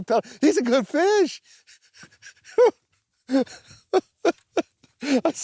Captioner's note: laughing